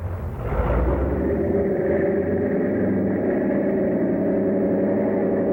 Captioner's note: airplane engine roaring